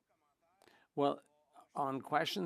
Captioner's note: speaking French